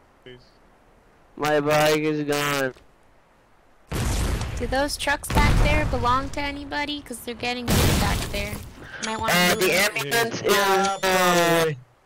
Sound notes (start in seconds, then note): 3.9 boom